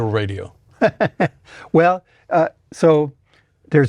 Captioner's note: laughs